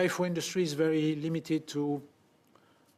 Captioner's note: speaking French